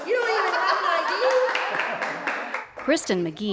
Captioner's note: laugh